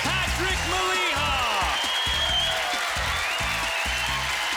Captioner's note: applause